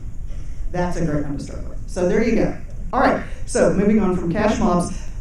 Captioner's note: none